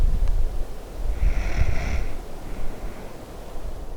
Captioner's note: snoring